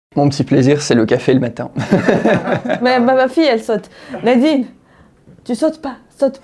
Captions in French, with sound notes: Mon petit plaisir c'est le café le matin. *rires* Attendez ma fille saute. Tu ne sautes pas, tu ne sautes pas.